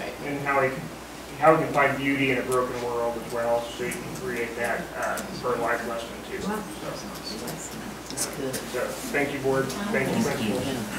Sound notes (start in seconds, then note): 6.5 overlapping chattering